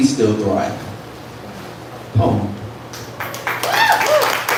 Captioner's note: applause